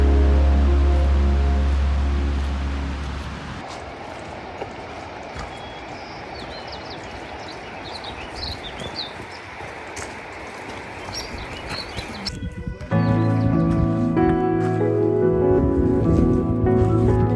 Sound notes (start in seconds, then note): 5.2 birds singing; 12.9 upbeat music